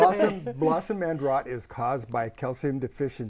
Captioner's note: laughing